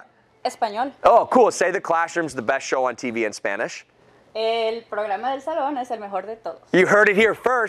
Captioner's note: spanish